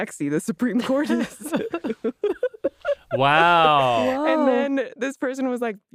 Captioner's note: laughs